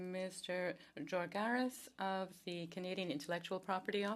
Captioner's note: speaking French